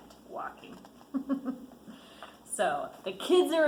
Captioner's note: giggles